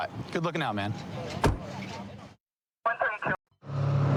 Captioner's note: car door closing